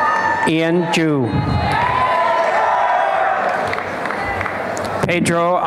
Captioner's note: applause and cheering